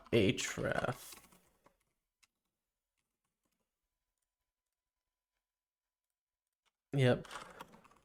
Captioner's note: silence